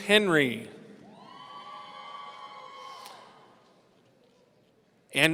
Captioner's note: audience cheering